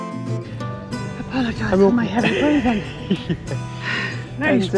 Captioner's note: laughter